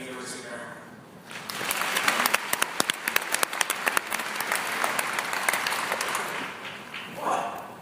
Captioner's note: applause